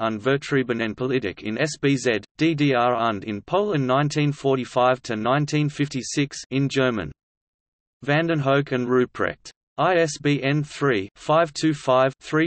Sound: in German

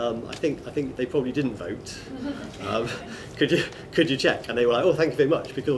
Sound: laughter

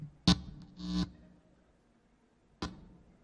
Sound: cable buzzes

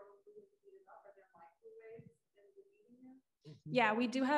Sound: voice muffling

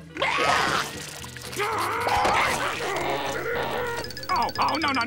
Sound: growling

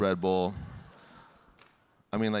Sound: audience laughing

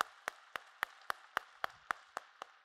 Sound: applause

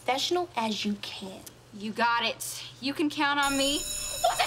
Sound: bell ringing

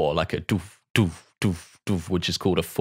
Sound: beatboxes

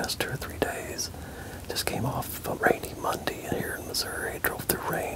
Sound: whispering

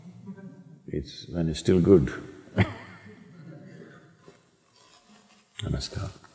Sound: chuckles

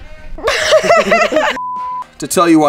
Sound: laughter

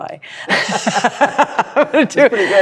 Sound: laughter

